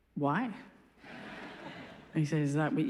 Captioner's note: laughs